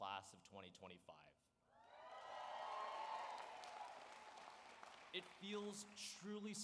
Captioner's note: cheers and applause